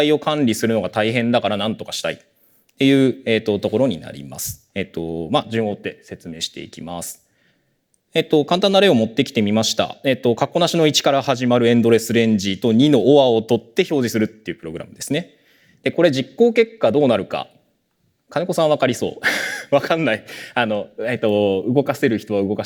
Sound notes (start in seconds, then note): 19.8 chuckles